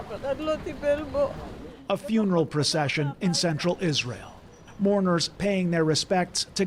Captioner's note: speaking alternate language